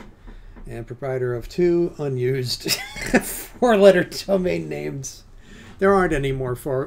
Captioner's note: laughs